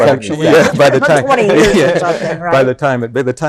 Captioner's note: laughs